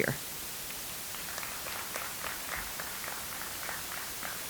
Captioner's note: audience applauds